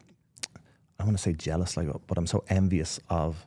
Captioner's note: mouth clicking